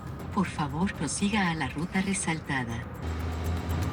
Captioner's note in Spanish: voz en gps